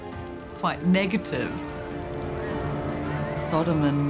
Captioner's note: fire crackling, people screaming